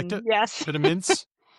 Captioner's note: laughs